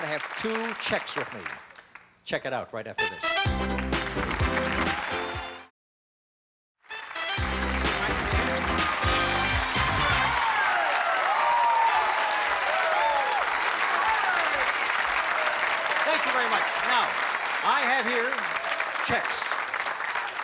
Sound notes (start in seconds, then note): 8.5 cheering and applause